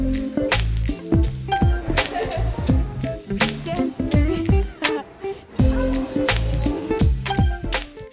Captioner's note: and can be heard laughing and talking in the background